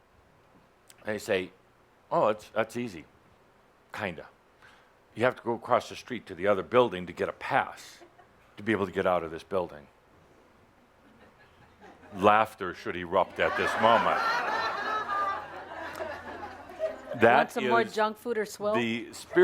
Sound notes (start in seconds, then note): 14.8 laughter